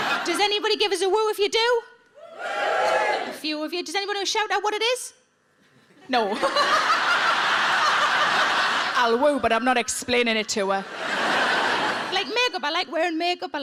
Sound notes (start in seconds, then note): 0.0 audience laughing; 2.2 audience wooing; 6.3 Sarah and audience laughing; 10.8 audience laughing